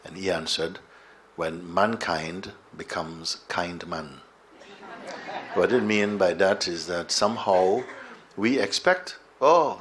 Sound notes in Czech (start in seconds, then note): 4.6 smích